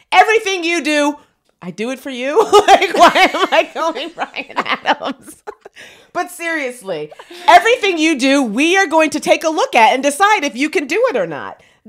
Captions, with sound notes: Everything you do, I do it for you. Like, (laughs) why am I going, Bryan Adams? But seriously, "Everything you do, we are going to take a look at, and decide if you can do it or not."